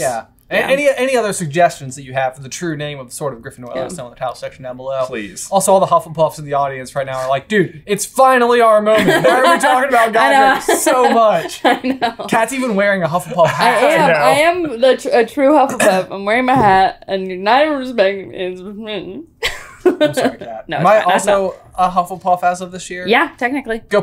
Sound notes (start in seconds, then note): 16.9 sad tone; 19.4 laughs